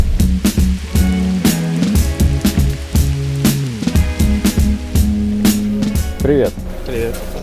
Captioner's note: rain